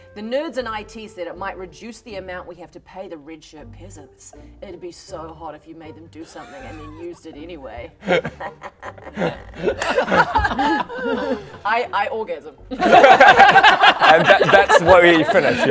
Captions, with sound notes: the nerds in IT said it might reduce the amount we have to pay the red shirt peasants it'd be so hot if you made them do something and then used it anyway ha ha ha ha *peasant laughter* I orgasm *laughs* And that's where we finish